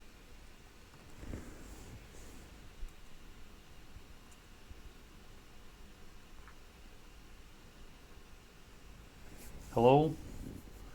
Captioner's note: silence